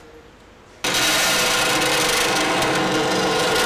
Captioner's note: machines noisily running